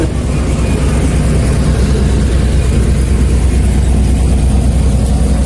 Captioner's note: generator rumbling